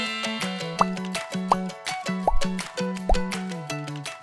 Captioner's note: magical chiming; flowers popping